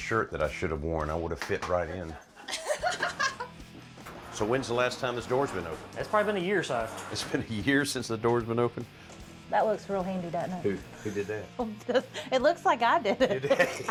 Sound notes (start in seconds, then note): 2.0 laughter; 13.2 laughter